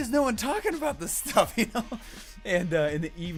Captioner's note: laughs